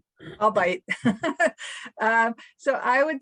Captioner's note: laugh